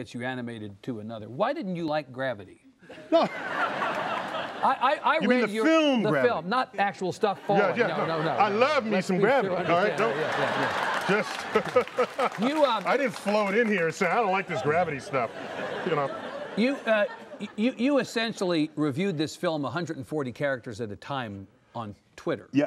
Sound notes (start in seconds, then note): 2.9 laughter; 9.2 laughter